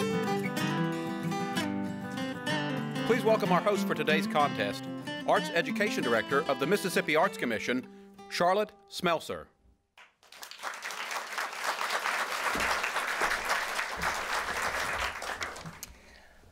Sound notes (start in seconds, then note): 3.5 voiceover; 10.0 applause